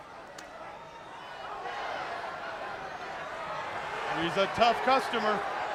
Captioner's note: crowd cheering